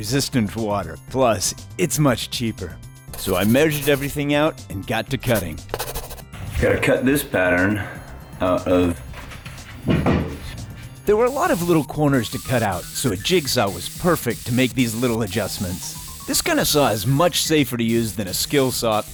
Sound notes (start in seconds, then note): 5.3 pencil writing; 8.8 taps on wood